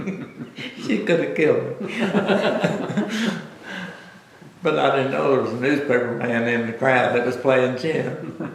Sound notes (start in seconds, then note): 1.8 laughter; 1.8 laughs